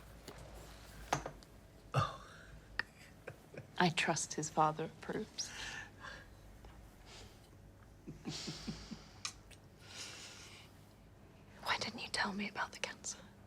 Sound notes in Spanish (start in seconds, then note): 1.5 risas; 8.0 risas